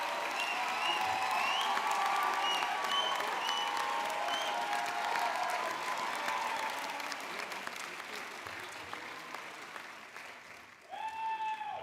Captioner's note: cheers and Applause